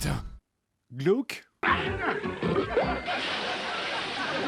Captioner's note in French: bruitages comiques; rires pré-enregistrés